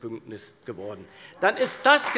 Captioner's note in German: Beifall bei der CDU und dem BÜNDNIS 90/DIE GRÜNEN